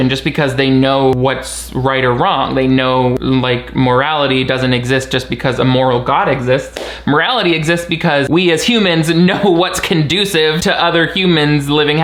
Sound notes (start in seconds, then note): 6.7 hands clapping